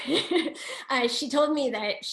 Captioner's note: laughing